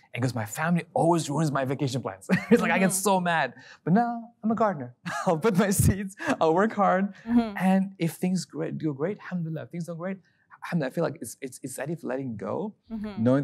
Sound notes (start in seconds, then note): 4.9 laughs